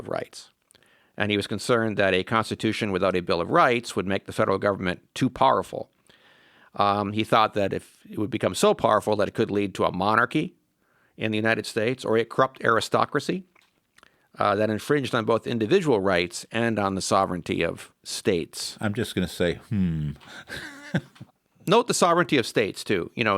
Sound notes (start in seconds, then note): 18.8 laughs